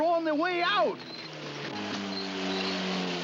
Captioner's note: buzzing